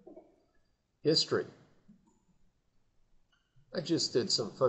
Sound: silence

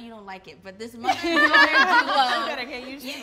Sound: all laugh

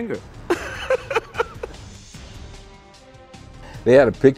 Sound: laughs

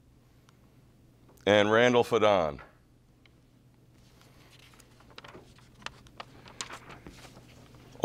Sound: page turning

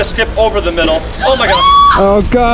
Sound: screams loudly

